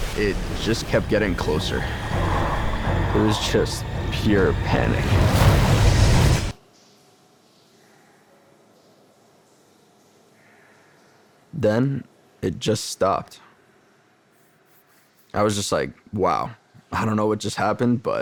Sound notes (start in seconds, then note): 5.3 tense music swells; 5.3 water splashes